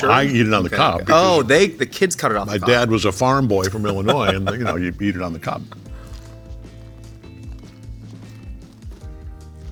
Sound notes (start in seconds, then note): 3.5 laughing; 5.0 corn crunching